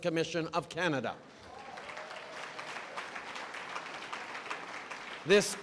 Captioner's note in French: Applaudissements